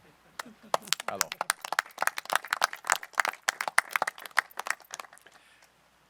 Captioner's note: applause